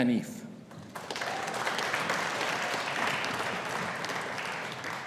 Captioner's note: audience applauding